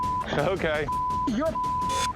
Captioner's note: chuckles